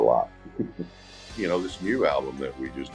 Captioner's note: laughs